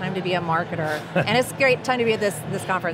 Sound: chuckling

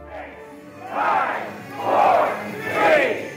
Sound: crowd

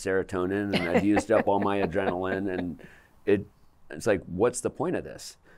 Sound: laughter

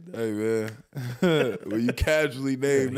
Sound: snaps fingers and chuckles

